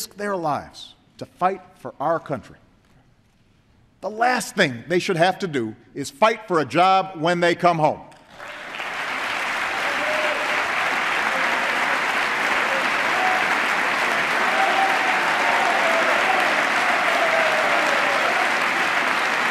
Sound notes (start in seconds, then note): 13.7 applause